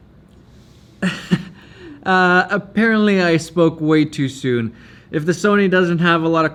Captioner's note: chuckles